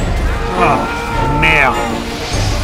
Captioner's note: french frustration